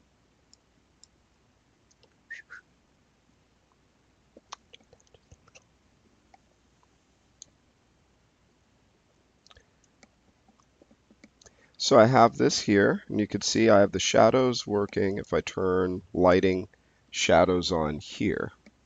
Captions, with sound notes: (whistling) So I have this here, and you can see I have the shadows working, if I turn lighting shadows on here.